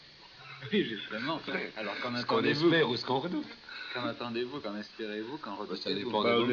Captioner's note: risate